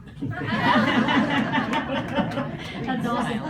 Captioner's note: laughter